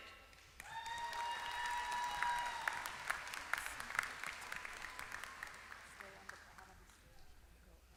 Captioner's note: applause